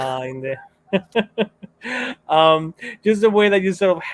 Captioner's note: light laughter